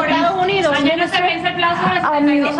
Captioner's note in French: plusieurs voix